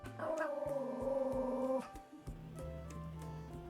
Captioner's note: dog growling